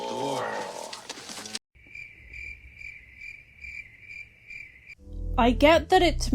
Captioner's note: crickets